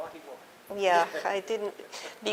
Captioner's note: laughter